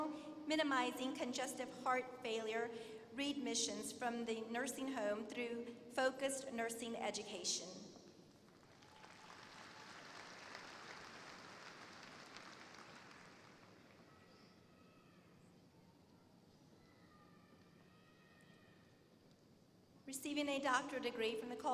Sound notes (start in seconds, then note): 8.4 applause